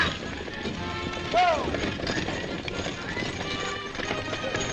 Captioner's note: horses galloping; guards shouting; exciting music continues